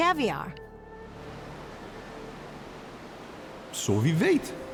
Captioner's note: waves lapping